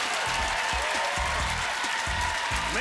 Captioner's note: applause